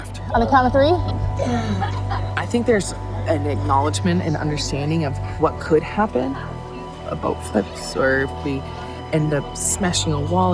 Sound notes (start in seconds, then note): 1.3 coughing